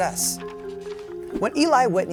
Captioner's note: paper rustles